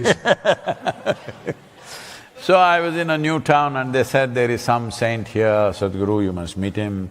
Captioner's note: laughs